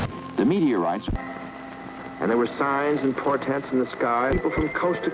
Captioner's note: none